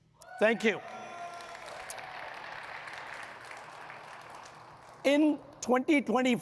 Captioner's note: audience cheering and clapping